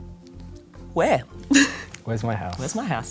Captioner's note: laughter